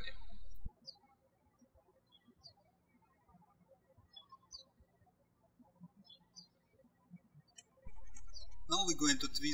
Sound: birds chirping

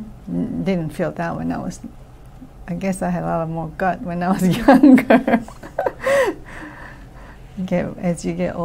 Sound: laughs

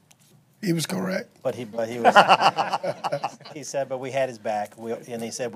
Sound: laughter

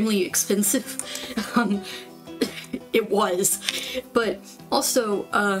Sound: laugh

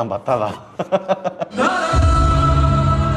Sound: man laughs

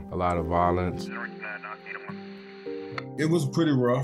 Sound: police radio

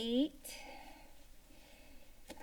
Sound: sigh

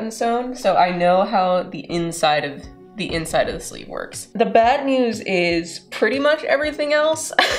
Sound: laughter

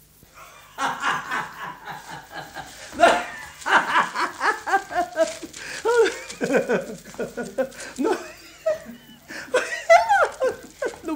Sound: laugh out loud

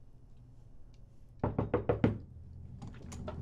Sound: knock on the door

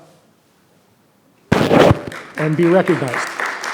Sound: thud

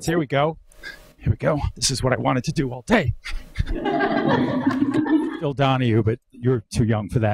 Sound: audience laughs

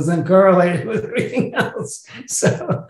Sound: laughs

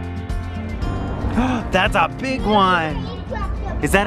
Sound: gasps

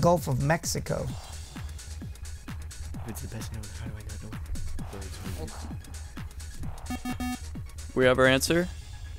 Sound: wispering

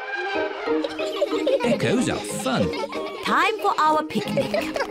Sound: all giggling

